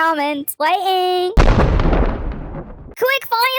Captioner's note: thunder